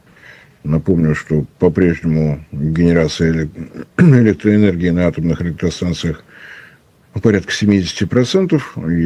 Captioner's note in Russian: откашливается